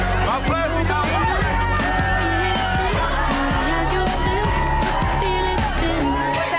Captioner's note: upbeat music; women cheering